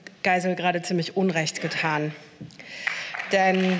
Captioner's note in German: Beifall